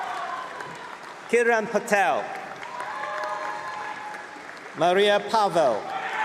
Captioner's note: cheering and applause